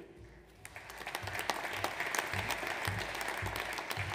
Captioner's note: audience applauds